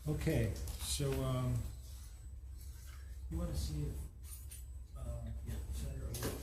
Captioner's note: both mumbling